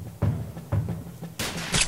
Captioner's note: gunshot